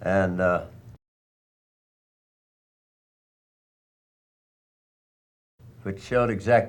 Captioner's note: silent